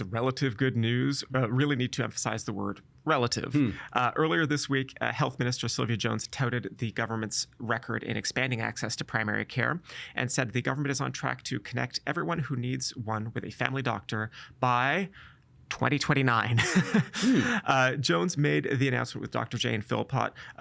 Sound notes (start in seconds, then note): 16.6 laughing